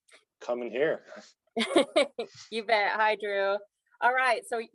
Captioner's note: laughs